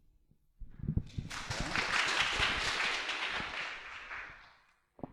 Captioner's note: applause